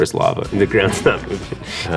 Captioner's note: laughing